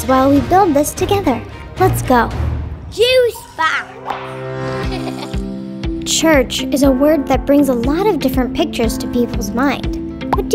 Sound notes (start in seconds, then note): 4.7 child laughing; 6.8 bright music